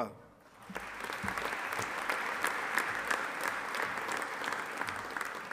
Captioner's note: audience applauding